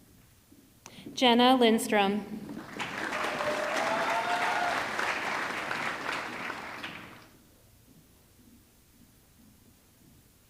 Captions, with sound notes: Jenna Lindstrom, (audience clapping) (audience cheering)